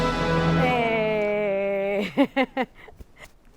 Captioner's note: exclaims and chuckles